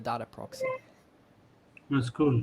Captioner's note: loud computer haptic